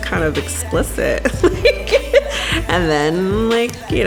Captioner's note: laughs